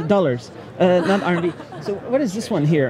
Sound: laughing

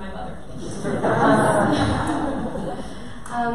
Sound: audience laughter

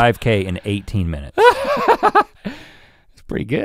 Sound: chuckles

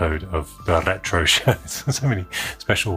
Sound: chuckles

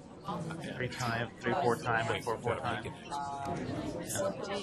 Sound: voiceover

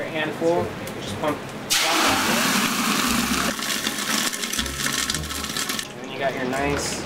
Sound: sizzling noises

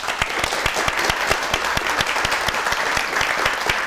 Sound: applause

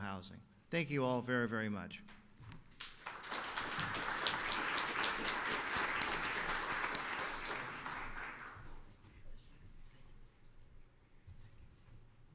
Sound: applause

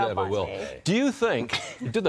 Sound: laughter

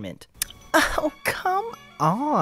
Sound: lip smack of unparalleled intelligence

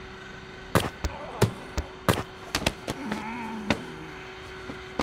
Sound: more fight noises

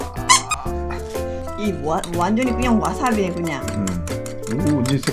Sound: grunting

